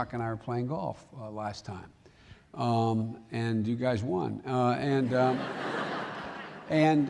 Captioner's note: laughter